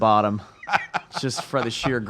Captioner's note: laughs